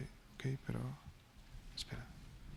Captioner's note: speaking spanish